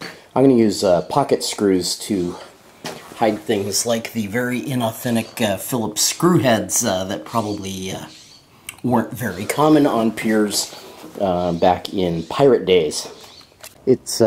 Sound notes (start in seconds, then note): none